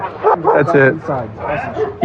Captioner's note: radio